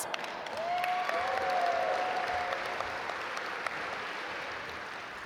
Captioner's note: audience applaud